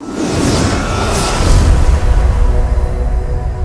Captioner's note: intense whooshing